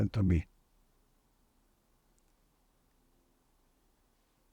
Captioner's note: pauses 10 seconds